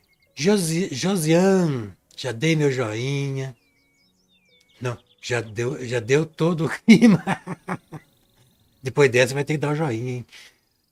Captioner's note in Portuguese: risadas